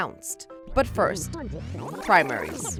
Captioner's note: rewinding effect